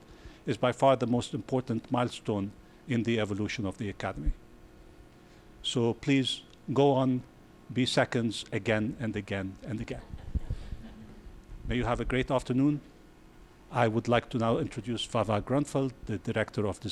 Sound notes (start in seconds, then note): 9.9 chuckling